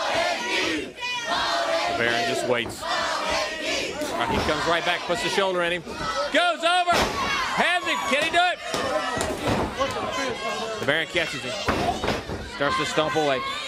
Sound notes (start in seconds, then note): 10.1 crowd cheering